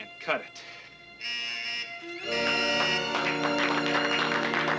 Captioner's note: buzzing; applause